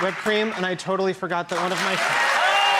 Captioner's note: audience claps and cheers